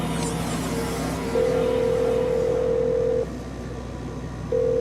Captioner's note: phone ringing